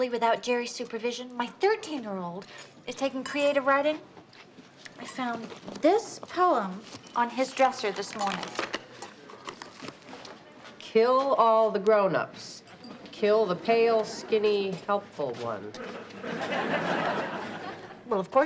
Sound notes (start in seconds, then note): 9.4 paper crinkles; 15.8 audience laughs